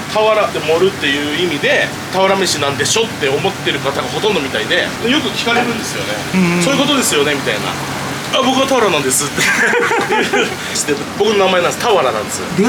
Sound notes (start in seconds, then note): 9.2 laughs